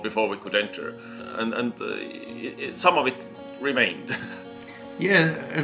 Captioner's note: chuckles